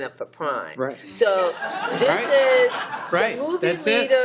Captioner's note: laughter